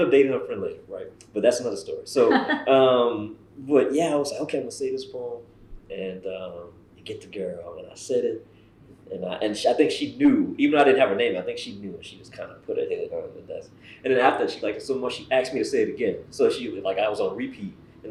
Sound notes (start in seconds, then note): 3.6 laughter